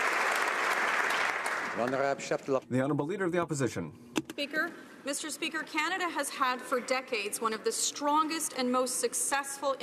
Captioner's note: applause